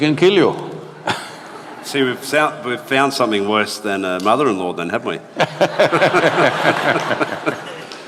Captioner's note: laughter